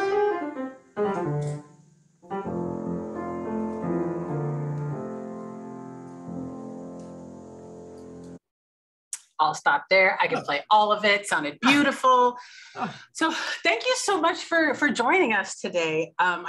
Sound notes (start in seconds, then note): 12.2 laughing